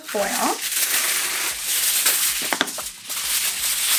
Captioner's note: foil rustling